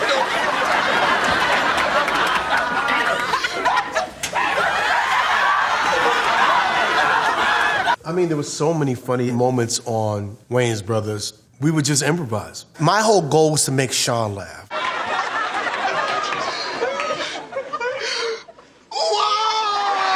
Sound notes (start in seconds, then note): 0.0 crowd laughing; 2.8 crying hysterically; 14.7 crowd laughing; 19.1 crowd cheering